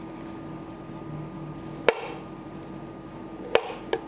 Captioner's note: slicing